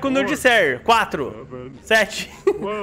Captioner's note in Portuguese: risos